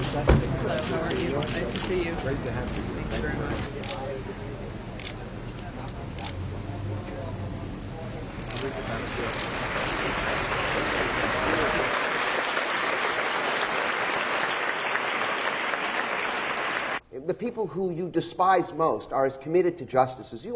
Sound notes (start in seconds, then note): 9.0 clapping